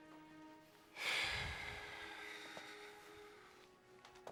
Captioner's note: sigh